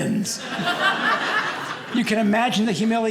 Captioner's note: audience laughing